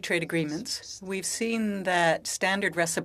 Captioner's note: speaking French